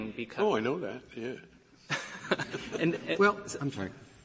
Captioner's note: laughter